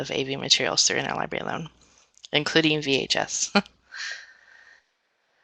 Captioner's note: laughs